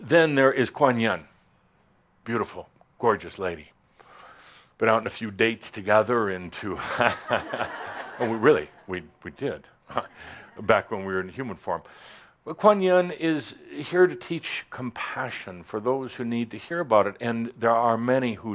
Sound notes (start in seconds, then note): 6.8 laughter